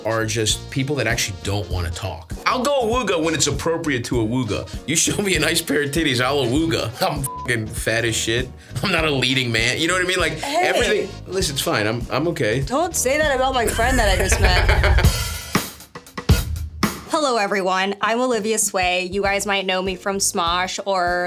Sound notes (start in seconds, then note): 7.3 beeps; 13.6 Stavros laughs; 15.7 upbeat music begins